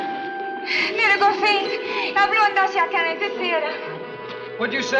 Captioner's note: Ann speaks Swedish